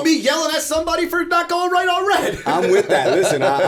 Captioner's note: laughter